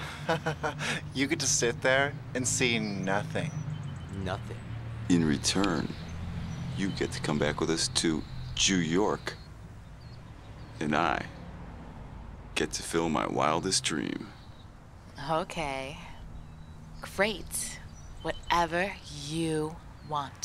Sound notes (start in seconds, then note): 4.2 whispers